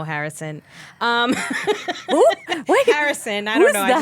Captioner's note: laughing